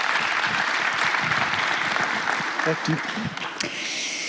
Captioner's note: applause